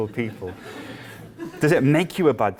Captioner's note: laughter